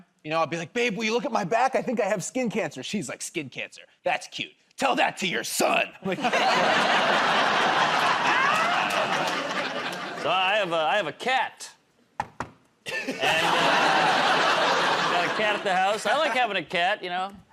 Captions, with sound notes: You know, I'll be like, "Babe, will you look at my back? I think I have skin cancer." She's like, "Skin cancer?" That's cute. Tell that to your son." [ Laughter ] -So, I have a cat. [ Knocks on table ] And a... Got a cat at the house. I like having a cat, you know.